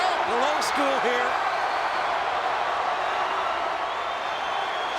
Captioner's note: audience cheers